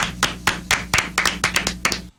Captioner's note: clapping